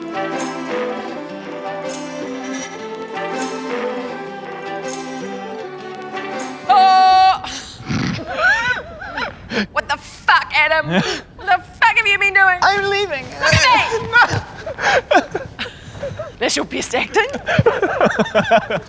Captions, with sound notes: - Ahh! (Laughing) What the fuck, Adam? What the fuck have you been doing? - I'm leaving. - Look at me! That's your best acting?